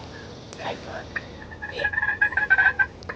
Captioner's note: whispering